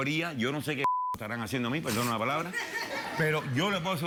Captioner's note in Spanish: Bip; Risotada del público